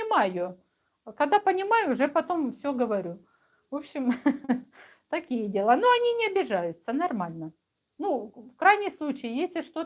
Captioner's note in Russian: смех